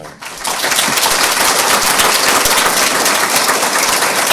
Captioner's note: audience applauds